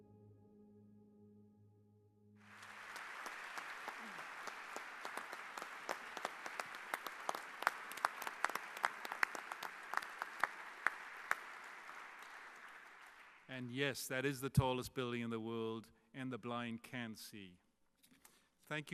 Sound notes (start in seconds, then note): 2.4 clapping